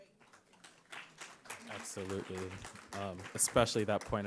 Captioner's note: audience applauding